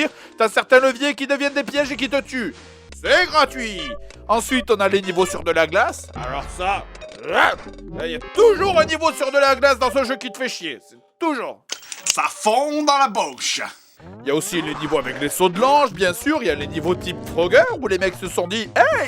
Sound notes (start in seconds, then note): 11.5 german accent